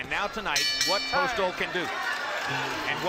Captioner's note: bell dings